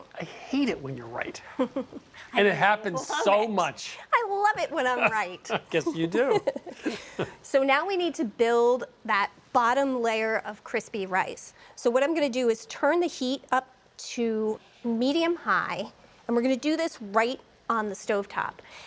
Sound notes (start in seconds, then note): 1.4 chuckles; 4.7 laughs